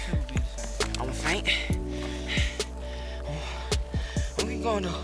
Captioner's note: breathing heavily